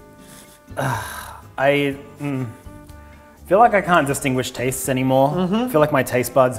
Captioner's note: sigh